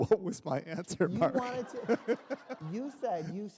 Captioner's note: laughter